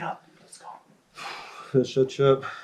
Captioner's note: sighs